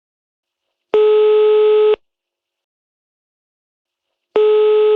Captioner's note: telephone ringing